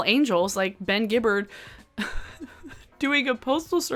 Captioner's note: chuckles